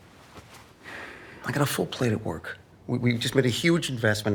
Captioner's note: sighs